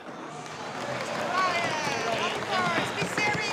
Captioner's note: people clapping